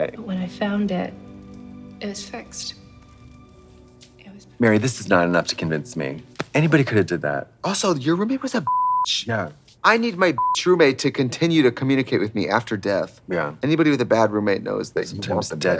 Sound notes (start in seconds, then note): 8.6 beep; 10.4 beep